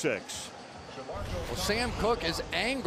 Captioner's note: swoosh